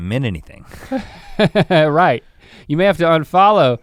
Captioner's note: chuckles